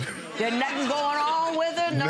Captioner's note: audience laughs